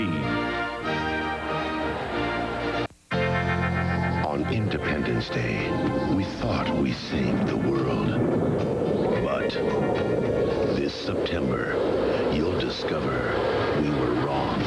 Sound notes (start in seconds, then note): 8.3 wind howling